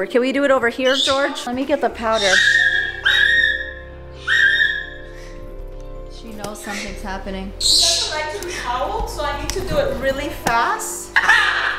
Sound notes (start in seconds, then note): 2.0 bird screeches; 11.1 bird cawing